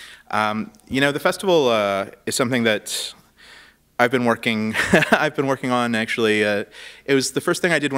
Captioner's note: chuckle